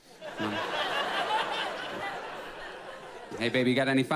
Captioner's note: audience laughs